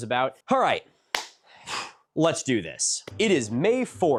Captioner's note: clap